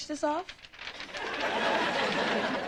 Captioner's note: paper rustling; audience laughing